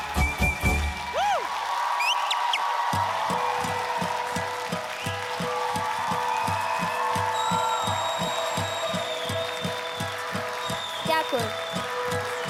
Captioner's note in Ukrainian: оплески